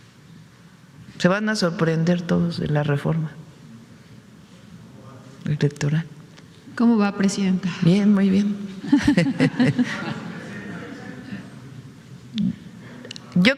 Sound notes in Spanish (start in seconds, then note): 8.8 risas